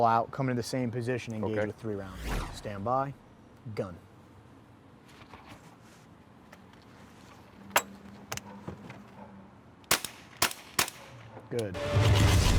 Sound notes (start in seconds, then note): 9.9 gunshots firing